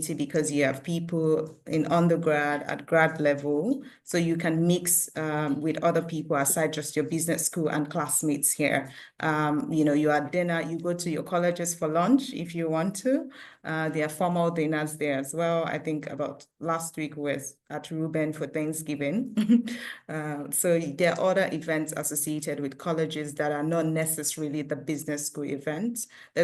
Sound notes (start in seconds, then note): 19.4 chuckles